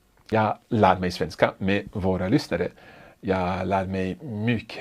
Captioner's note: speaks in foreign language